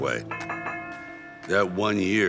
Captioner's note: bell rings